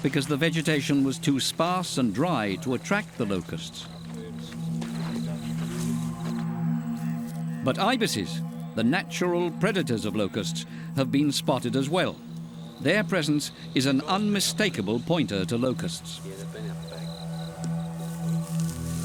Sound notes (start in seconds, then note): 4.2 indistinct chatter; 16.5 indistinct chatter